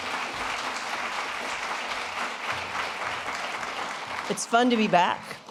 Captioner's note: applause